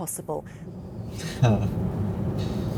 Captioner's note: laughs